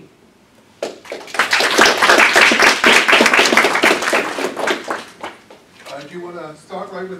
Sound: applause

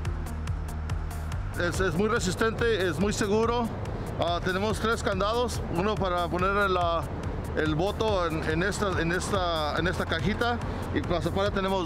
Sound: Spanish

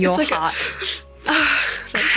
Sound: exhales

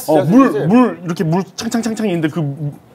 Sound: in Korean

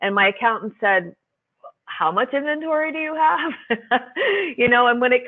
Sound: laughs

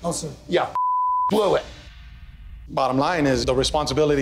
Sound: beeping

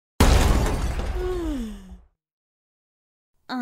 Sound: yawn

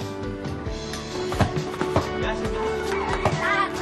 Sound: ball thumping

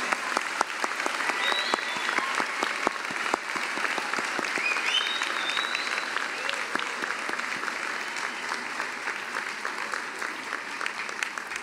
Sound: cheering and applause

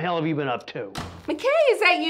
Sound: door Slams

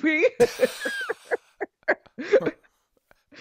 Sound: laughter

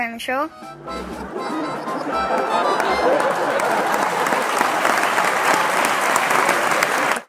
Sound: laughter, music and applause

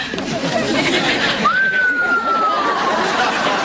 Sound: whistles

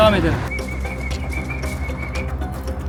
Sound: whistle

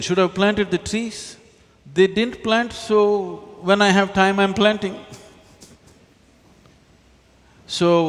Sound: laughs

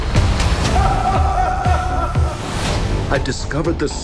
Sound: laugh echoing

